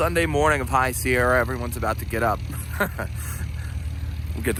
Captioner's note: laughs